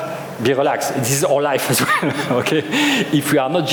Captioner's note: chuckles